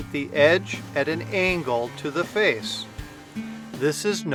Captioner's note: jointing machine humming